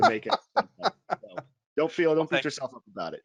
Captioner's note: laughs